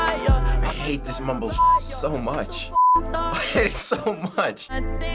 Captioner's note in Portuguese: risos